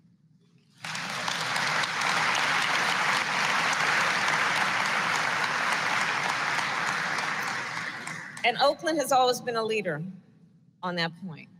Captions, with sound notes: (Applause.) And Oakland has always been a leader on that point.